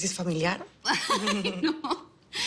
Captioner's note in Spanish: Risas